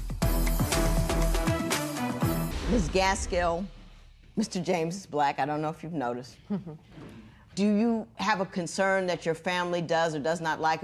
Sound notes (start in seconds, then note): 6.4 chuckles